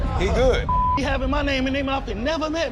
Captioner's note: beep